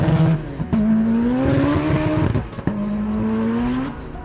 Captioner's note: car roaring